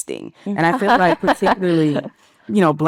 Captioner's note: participant laughing